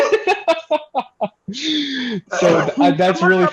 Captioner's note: laughter